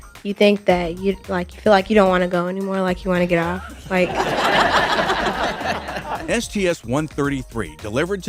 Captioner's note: laughter